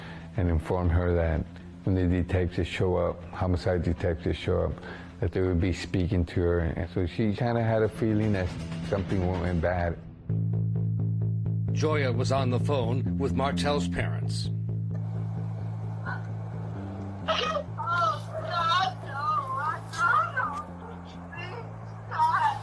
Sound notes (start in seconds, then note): 9.8 tense music; 14.6 crying